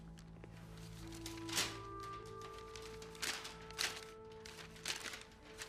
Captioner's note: paper rustling